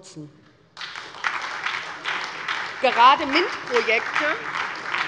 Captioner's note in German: Beifall bei der SPD